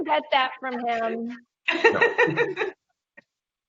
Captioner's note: laughing